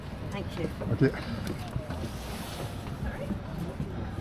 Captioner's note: background chat; backgroung chat; background chat